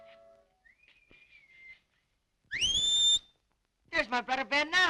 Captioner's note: whistling